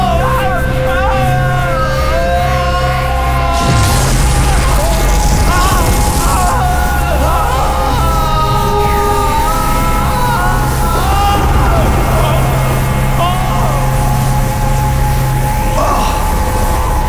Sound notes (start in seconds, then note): 2.4 screaming continues; 8.5 screaming continues